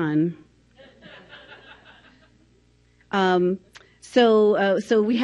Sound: audience laughing

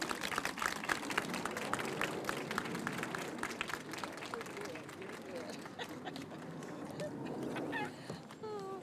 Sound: applause

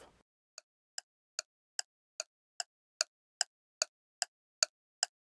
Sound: metronome ticking

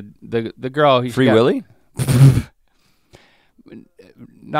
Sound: Link sputters

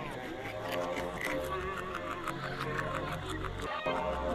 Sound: on TV

